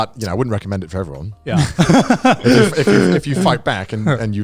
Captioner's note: laughing